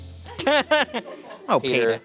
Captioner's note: laughs